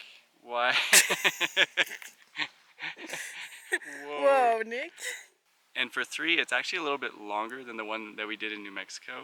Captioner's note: laughs